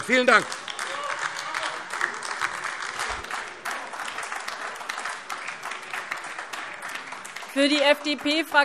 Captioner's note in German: Beifall AfD - Unruhe